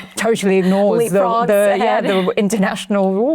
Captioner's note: chuckles